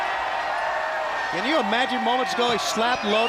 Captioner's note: crowd cheering